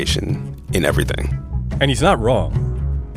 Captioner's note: soundbite of archived recording